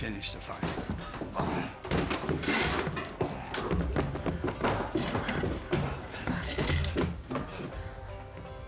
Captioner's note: footsteps